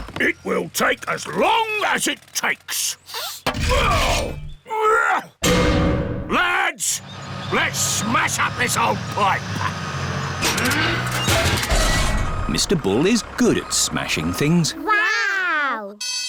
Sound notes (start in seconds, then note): 4.7 grunting; 16.0 alarm ringing